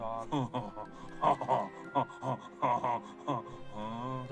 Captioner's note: dog laughs